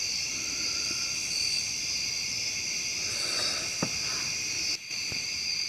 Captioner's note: breathing uneasily